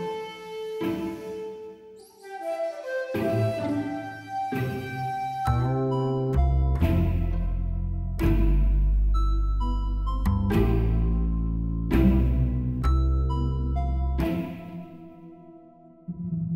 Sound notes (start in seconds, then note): none